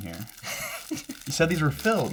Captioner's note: laughs